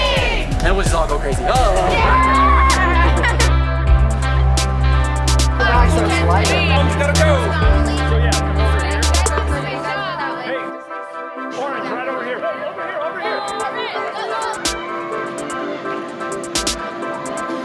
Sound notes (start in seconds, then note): 2.6 laughter; 5.6 background chatter